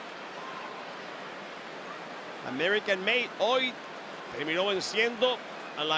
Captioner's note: applause